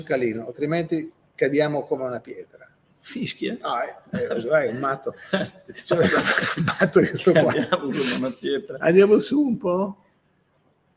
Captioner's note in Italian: Risate